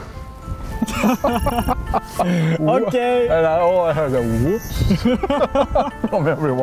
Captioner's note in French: Rires